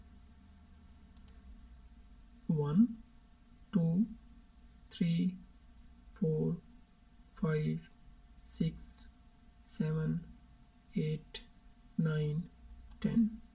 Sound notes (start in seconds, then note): 1.1 click